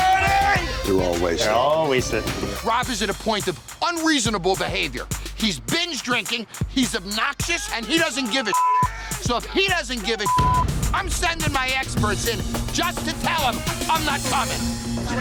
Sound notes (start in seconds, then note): 8.4 yelling drunkenly; 8.5 beep